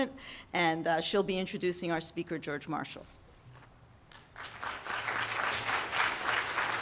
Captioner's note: audience clapping